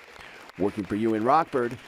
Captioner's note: nat/clapping